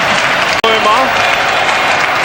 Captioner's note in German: applaus; jubel